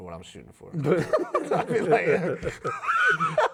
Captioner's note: laughing